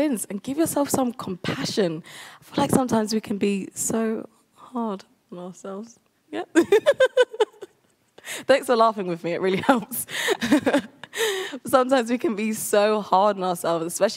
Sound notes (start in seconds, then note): 6.5 laughs